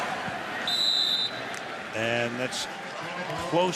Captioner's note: whistle